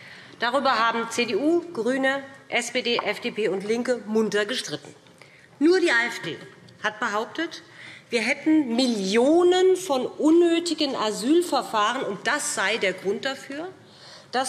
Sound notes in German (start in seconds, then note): none